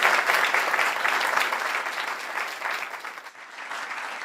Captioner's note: applause